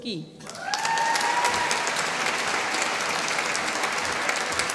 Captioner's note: applause